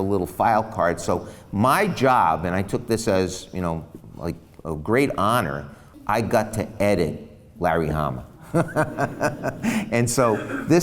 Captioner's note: laughs